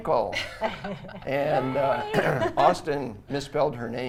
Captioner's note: everyone laughs